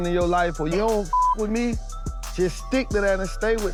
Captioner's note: beep